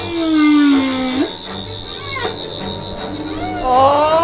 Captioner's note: whale song continues; twelfth doctor yells